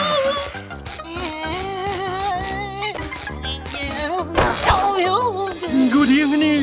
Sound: whimpering

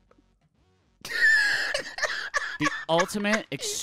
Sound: laughing

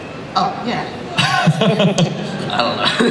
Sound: Chris laughs

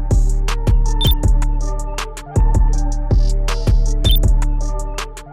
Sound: hip hop music; electronic beep

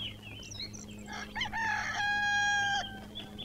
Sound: roosters Crowing

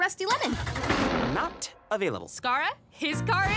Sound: car sputtering

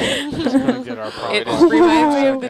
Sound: females laugh

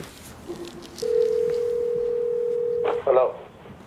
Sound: phone ringing

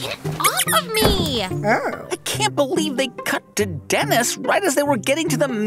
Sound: soundbite of squeak, thud

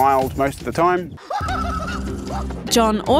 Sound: chuckles

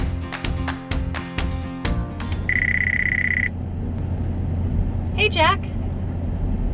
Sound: phone ringing

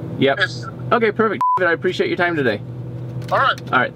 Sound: man Over Phone; beep; man Over Phone

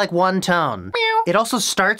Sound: meow

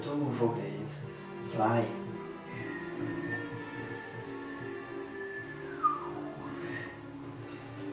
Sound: whistle

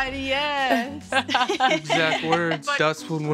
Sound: laughter

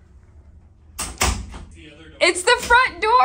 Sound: door clicks shut

